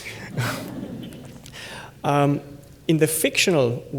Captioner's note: laughter